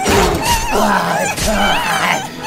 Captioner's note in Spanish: gritos